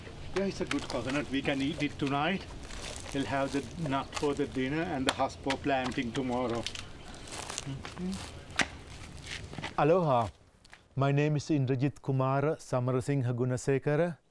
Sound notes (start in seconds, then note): 7.6 person with coconut hums